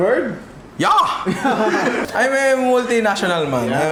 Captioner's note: laughter